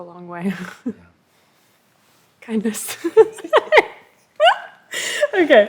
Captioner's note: laughs